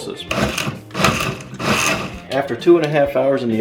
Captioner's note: blender pulsing